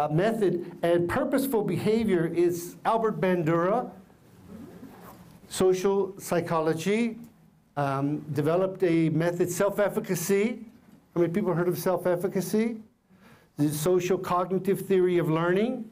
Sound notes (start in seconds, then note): none